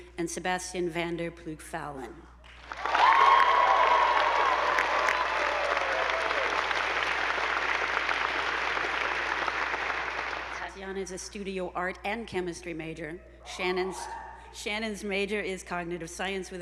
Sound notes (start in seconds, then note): 2.6 attendees applauding; 2.7 audience whooping